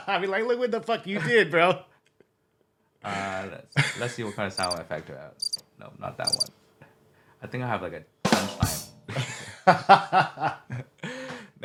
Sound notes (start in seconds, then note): 6.2 crickets chirping; 8.3 ba-dum-tss